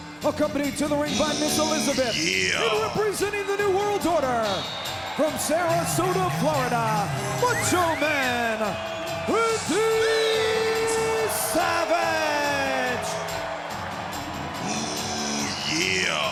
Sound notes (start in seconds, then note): 13.1 spectators cheer